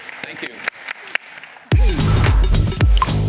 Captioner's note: applause